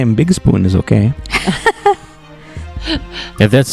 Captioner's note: laugh